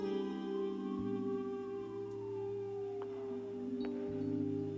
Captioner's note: sirens wailing